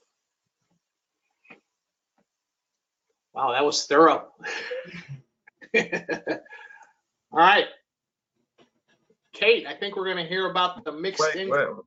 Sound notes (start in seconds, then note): 5.6 laughter